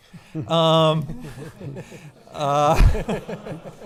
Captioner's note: laughing